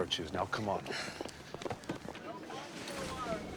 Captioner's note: sighs